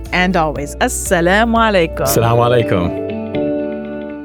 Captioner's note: both speaking non-English language; inspiring music